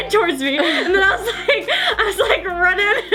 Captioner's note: laughing